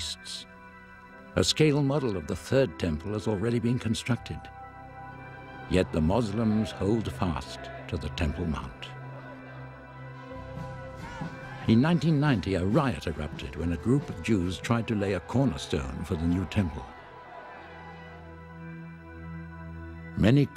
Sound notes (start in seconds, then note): 2.9 crowd shouting; 2.9 gentle music